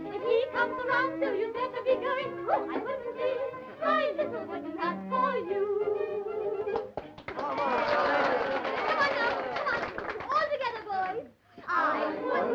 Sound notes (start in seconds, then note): 6.7 applause and cheering